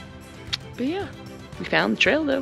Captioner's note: tounge click